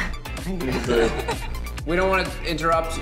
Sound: laughs

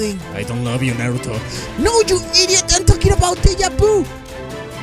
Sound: gasp

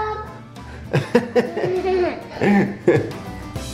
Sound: laughing

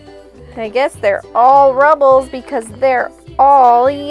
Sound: voice-over

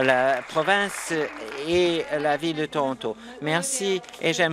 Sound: applause

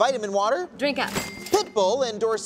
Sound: cash register chimes

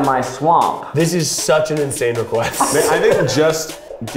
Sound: laughs

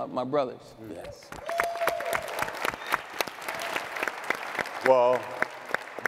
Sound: audience clapping and cheering

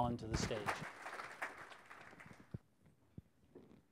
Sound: applause

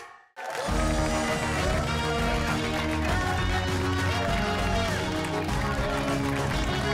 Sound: cheers and applause

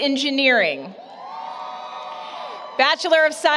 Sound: applause, Cheering

